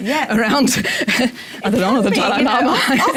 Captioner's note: laugh